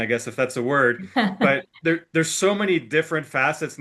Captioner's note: chuckles